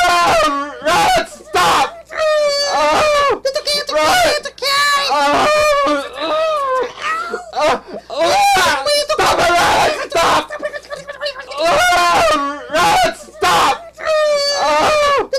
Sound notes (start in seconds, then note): 0.0 painful cries and Yells; 2.3 painful cries and Yells; 12.3 painful cries and Yells